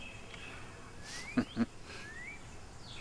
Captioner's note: chuckle